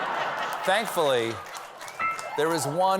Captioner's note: laughter